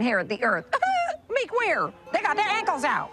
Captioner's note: scoffs